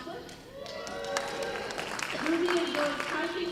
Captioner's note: applause